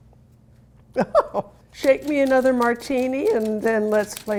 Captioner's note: laughing